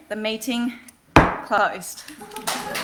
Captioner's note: gavel thuds; audience applauding